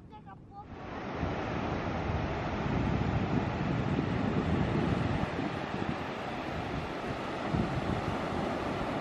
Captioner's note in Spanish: sonido ambiente de la playa